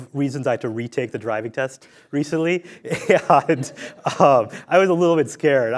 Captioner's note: laughs